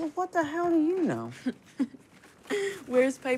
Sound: chuckles

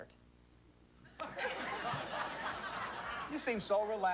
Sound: laughter

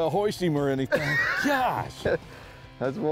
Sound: laughs

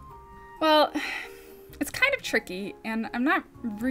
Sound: sighs

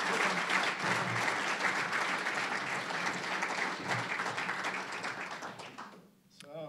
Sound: applause

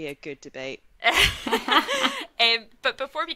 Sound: laugh

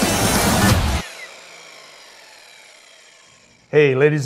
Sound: saw whirring

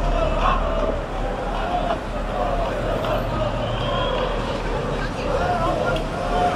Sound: sounds of traffic and cheering

